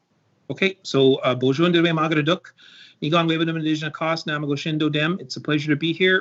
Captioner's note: speaking Anishinaabemowin